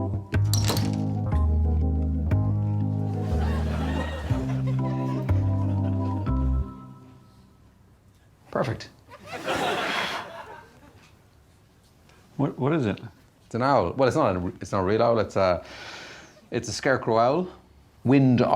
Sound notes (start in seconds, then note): 3.2 laughter; 9.7 blows